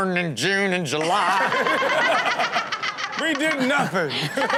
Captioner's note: all laughing; laughing